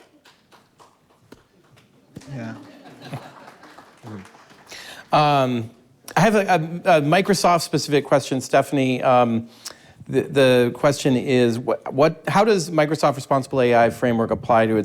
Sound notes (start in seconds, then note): 0.1 audience laughs; 0.1 audience member applauds; 3.2 audience applauding